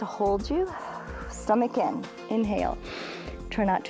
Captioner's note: inhales